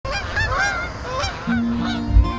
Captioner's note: birds chirping; gentle music